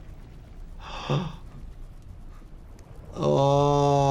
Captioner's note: doctor gasps